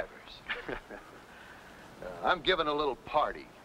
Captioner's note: men laughing